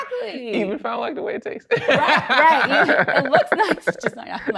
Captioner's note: laughs